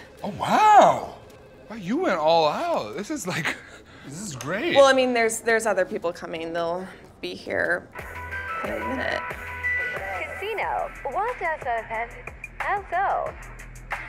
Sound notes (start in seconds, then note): 7.9 hip hop music; 10.3 TikTok Voice